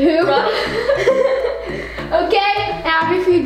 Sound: laughing

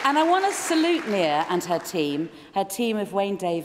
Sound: cheering & Applause

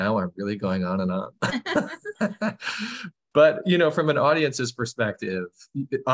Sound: laughter

